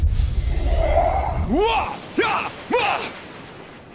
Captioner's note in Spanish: intensos ruidos mágicos; trueno relampagoso